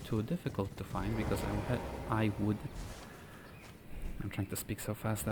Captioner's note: inhales